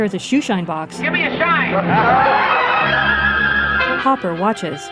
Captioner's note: laughter